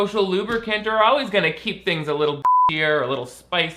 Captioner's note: beep